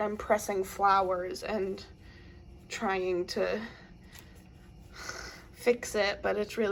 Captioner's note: groans